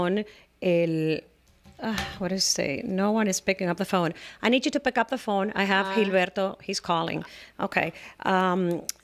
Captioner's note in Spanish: Hablando ingl\s